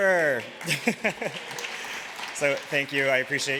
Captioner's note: applause